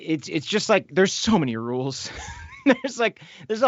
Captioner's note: laughs